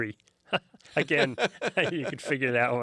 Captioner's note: both laugh